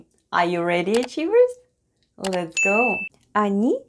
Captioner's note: click and ding sounds